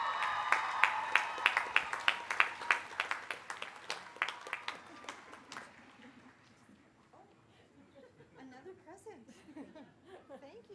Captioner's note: applause